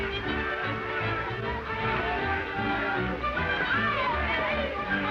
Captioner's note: people chattering